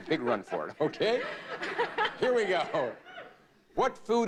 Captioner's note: audience laughing